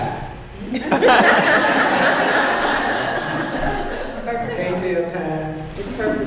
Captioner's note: laughter